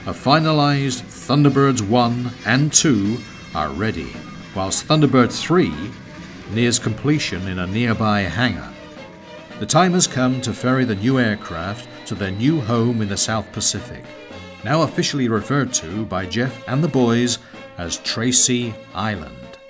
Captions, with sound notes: a finalised Thunderbirds 1 and 2 are ready whilst Thunderbird 3 nears completion in a nearby hangar. The time has come (aircraft whirring) to ferry the new aircraft to their new home in the South Pacific now officially referred to by Jeff and the boys as Tracy Island.